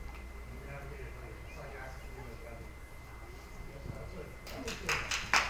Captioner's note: attendee talking quietly